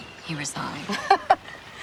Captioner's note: laughing